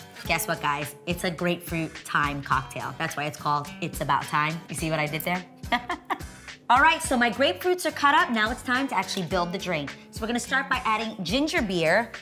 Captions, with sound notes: guess what guys, it's a grapefruit thyme cocktail, that's why it's called, It's About Thyme, you see what I did there. (chuckles) Alright, so my grapefruits are cut up, now it's time to actually build the drink. So we're gonna start by adding ginger beer